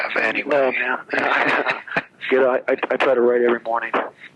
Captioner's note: laughs